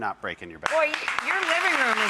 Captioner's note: audience applauding